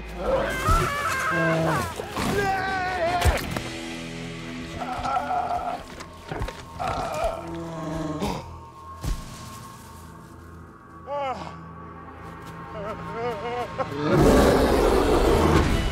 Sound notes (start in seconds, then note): 0.1 screams; 0.3 bear snarling; 0.4 Elsa screaming; 2.4 yells; 4.5 groaning; 6.2 Bear grumbles; 7.1 gasps; 11.0 gasps; 12.7 whimpering; 13.9 roars